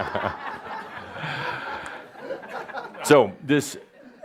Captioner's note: more laughter